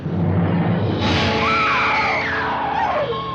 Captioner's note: screams